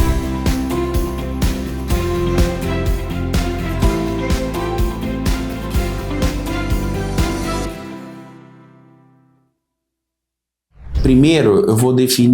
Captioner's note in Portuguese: shower